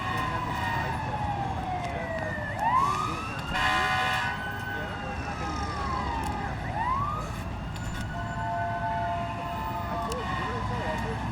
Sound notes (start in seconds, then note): 1.2 people chattering